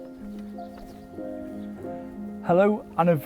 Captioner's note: birds twittering